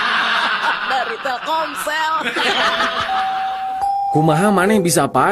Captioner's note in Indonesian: tertawa